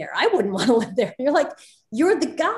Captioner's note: Soledad laughs